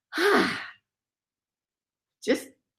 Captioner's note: sighs